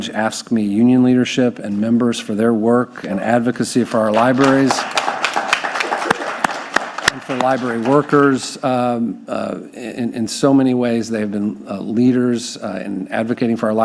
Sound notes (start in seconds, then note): 4.1 audience applauding; 4.1 clapping